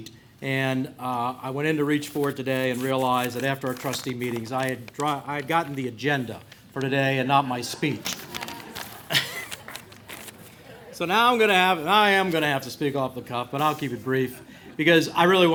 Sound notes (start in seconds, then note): 7.8 laughter